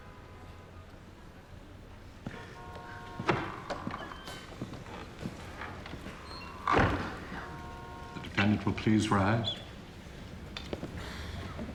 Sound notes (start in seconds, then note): 5.6 door opens, closes